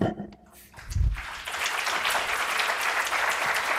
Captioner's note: applause